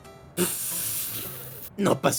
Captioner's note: laughs